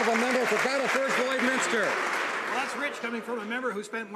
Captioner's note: some Applause